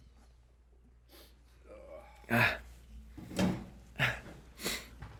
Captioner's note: both sniffing